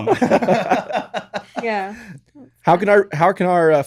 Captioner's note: laughing